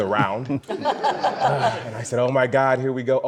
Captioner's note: audience laughs